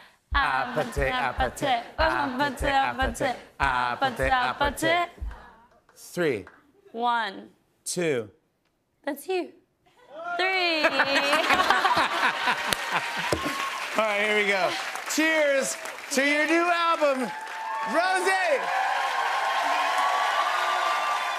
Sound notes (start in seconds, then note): 10.6 laughter; 19.2 cheers and applause